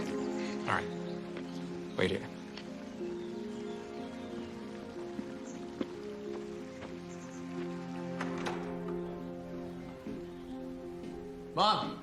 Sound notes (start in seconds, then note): 8.0 door opens